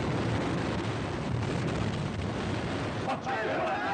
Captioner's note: angry cries from gang